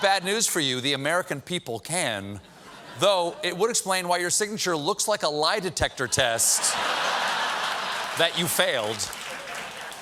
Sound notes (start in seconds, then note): 6.0 laughter; 6.8 applause